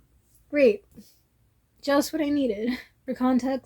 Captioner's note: sarcasm